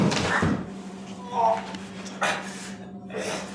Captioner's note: eddie groans